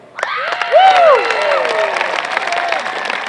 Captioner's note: applause